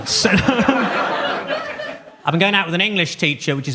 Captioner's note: audience laughs